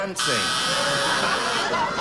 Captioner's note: audience booing